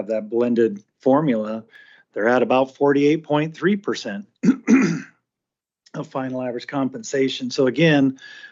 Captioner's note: clears throat and cough